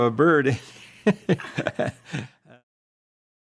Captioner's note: laughs